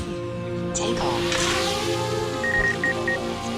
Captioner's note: drone